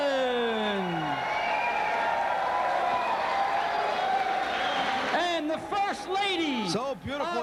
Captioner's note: crowd cheering